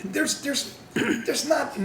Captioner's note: someone clearing throat